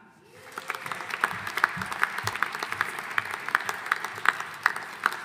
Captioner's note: audience applauding